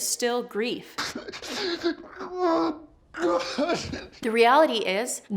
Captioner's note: sobbing